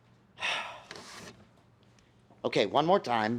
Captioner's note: sighs